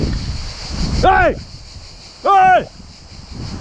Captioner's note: shouts